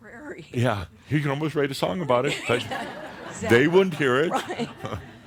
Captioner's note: they chuckle